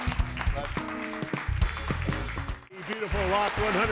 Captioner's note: audience applauding